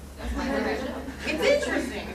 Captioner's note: laughs